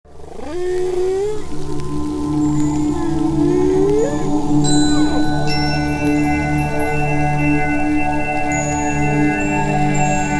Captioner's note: chimes; whale sounds